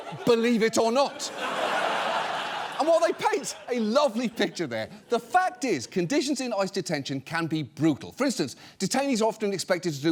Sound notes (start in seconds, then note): 0.0 audience laughs